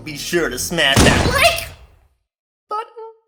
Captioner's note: gunshot